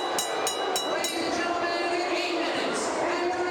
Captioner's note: bell ringing